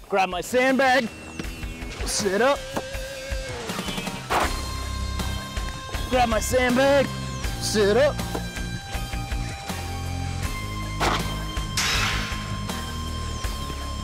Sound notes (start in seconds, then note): 4.7 gunshot; 11.0 gunshot; 11.7 bullet hitting metal